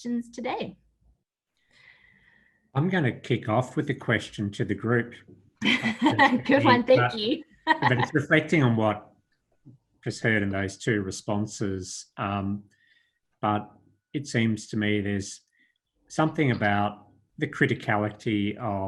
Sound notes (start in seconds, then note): 7.6 laughs